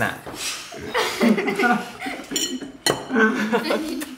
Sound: all laughing

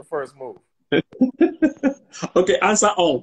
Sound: laughs

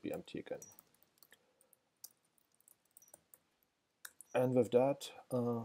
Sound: keyboard clicking

